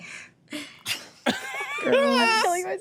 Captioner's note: laughs